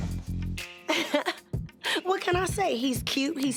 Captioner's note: laughs